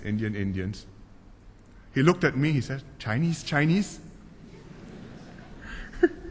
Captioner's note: laughter